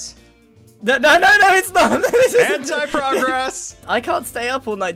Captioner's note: nervous laugh